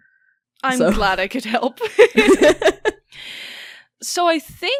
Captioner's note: both laugh